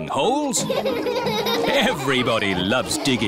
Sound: all laughing

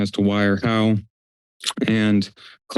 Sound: clicks tongue

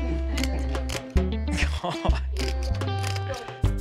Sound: chuckles

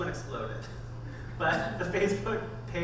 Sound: laughing

